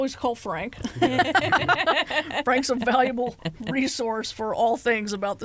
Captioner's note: laughter